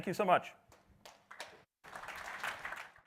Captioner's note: audience applauding